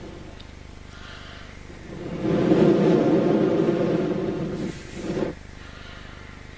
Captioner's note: blows into the microphone